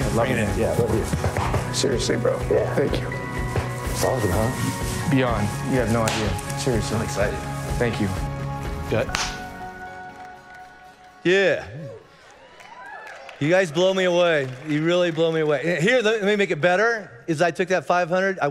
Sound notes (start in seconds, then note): 11.6 congregation cheering and applauding